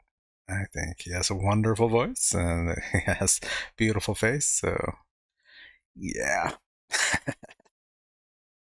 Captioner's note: chuckling